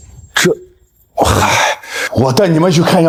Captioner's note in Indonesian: Menghela napas